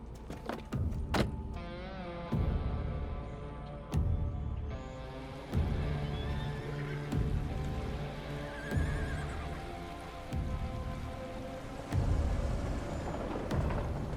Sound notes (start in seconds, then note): 1.0 door shuts; 1.8 tense music; 5.9 horses whinnying; 10.9 tense music